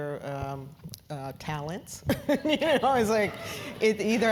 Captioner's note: laugh